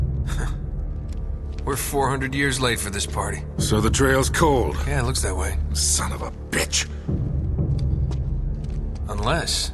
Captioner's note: in-game audio